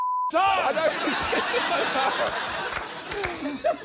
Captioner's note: laughter